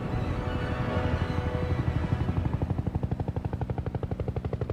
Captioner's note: helicopter whirring